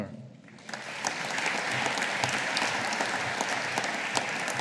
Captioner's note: audience applauding